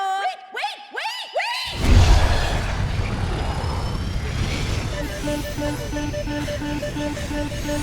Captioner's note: alarm blaring